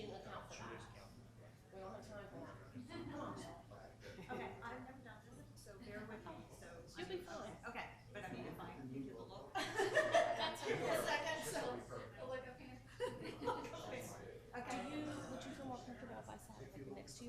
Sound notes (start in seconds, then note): 9.6 women laughing